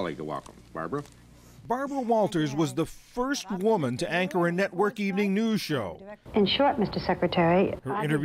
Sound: voice-over

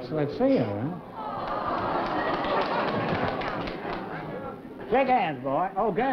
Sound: crowd awws

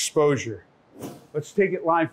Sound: whooshing

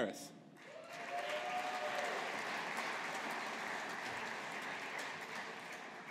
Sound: audience applauding

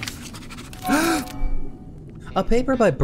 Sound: gasp

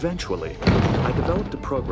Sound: thud

